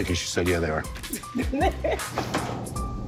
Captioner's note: laughs